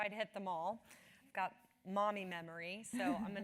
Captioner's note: laugh